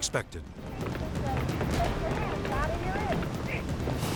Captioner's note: blubber pounding